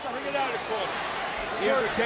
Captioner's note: crowd chattering